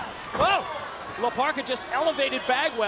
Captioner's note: crowd cheering